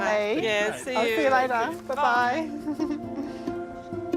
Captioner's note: chuckles